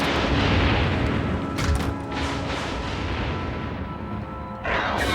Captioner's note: lightning cracks